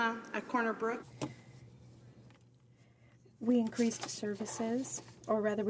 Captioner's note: speaking French